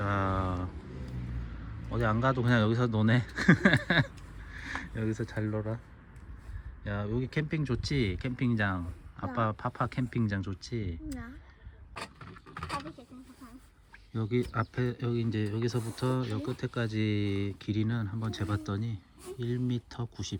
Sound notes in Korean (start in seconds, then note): 3.2 웃음